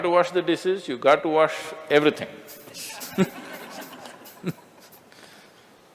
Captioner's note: laughter